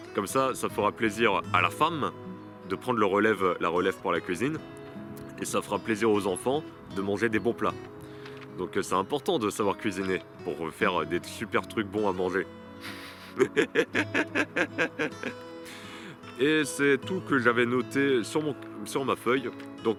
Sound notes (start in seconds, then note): 12.8 laughs